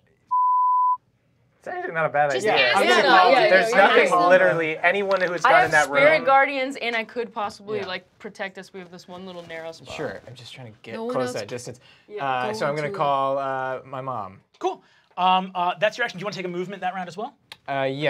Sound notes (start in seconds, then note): 0.3 beep; 3.1 crowd speaking over one another